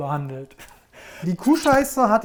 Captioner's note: he laughs softly